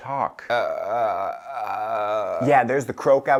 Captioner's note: Frank croaking